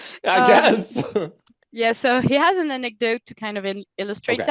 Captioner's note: translating from French